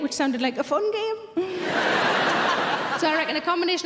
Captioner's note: audience laughing